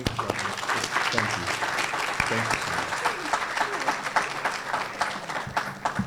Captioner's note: applause